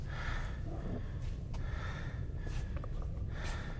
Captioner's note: heavy breathing